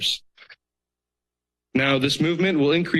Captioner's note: pause